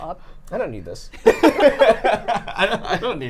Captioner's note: laughing